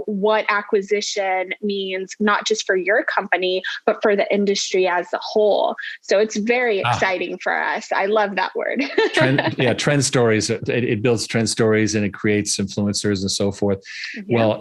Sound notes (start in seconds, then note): 8.8 laughing